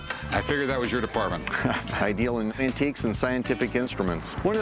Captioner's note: laughs